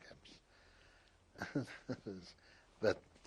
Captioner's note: laughs